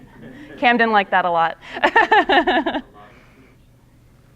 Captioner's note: instructor and students laughing; instructor laughing